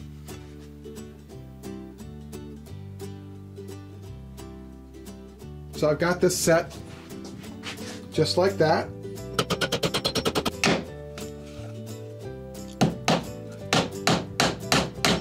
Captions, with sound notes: (background music) (background music) So I've got this set. Just like that. (sped up hammering) (hammering) (hammering)